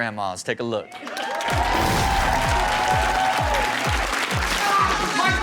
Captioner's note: audience cheering; rock music